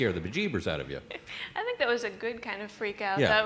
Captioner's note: laughter